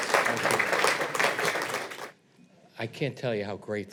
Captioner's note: audience applauds